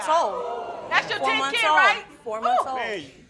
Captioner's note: crowd oohing